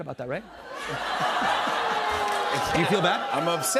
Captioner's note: laughter